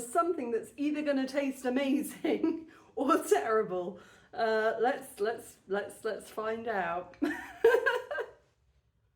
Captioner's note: laughing